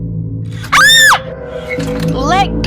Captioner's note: scream